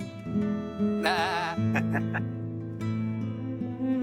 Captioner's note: bleats